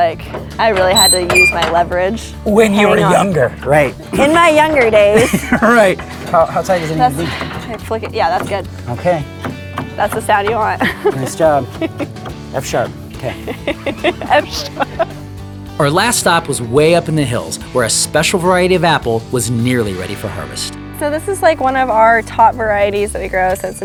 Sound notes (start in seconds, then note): 5.0 chuckles; 13.1 laughs